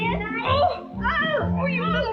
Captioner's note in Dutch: kreunen